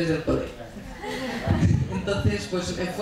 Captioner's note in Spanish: Risas